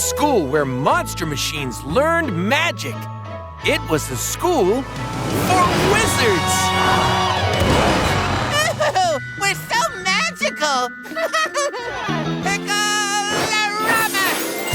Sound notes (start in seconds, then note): 11.0 laughing